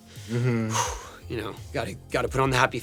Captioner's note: sighs